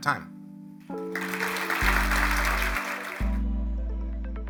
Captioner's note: applause